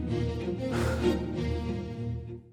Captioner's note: heavy sigh